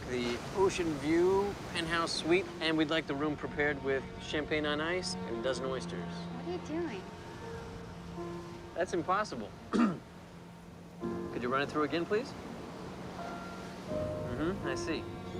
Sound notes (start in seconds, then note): 9.7 clears throat